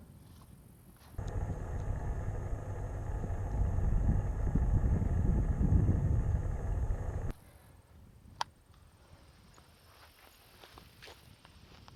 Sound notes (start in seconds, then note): 1.2 wind blowing